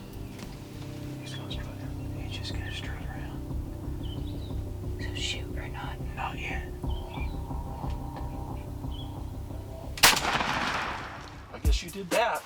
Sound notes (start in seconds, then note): 0.7 whispering